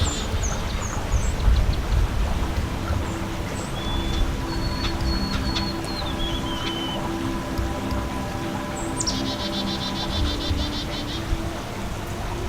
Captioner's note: background sounds, water running in creek